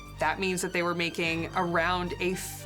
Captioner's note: none